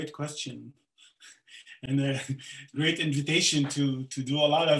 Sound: chuckles

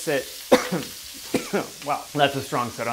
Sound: coughs

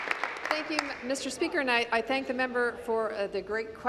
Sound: applause

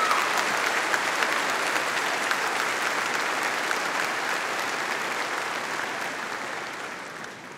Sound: audience applauding

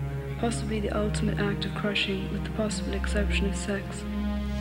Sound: voiceover

